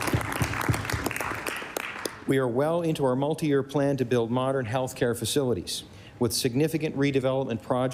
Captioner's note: applause